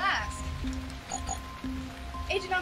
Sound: communicator beep

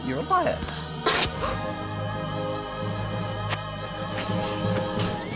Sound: dart shooting

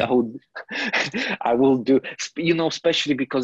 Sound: laughs

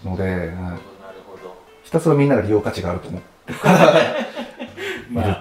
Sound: laughing

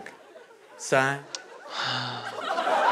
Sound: sighs

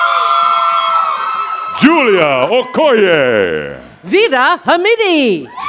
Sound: cheers and applause

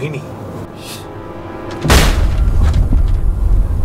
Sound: something explodes

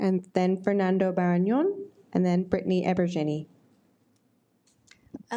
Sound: none

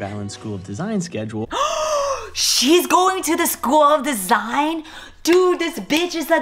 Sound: gasps

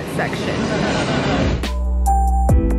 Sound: park ride roaring; calm music

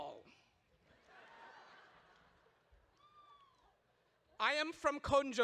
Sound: audience laughs

